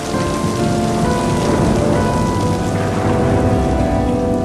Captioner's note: thunder rumbling